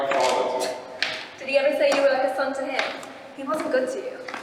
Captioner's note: scoffs